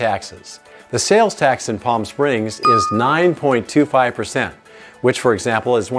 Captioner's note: bell dings